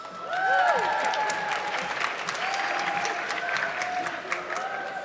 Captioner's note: audience clapping